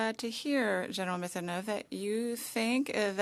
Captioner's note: speaking French